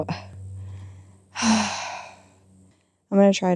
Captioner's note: sigh